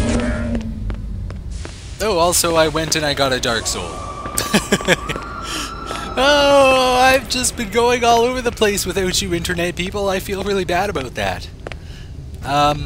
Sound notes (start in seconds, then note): 0.0 gunfire and pig noises; 4.1 laughs